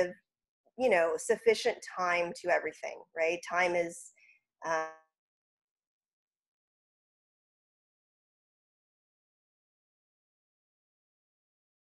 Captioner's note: audio cutting off